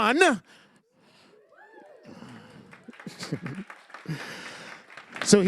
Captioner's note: crowd whistles and applauds